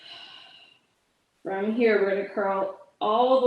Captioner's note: exhales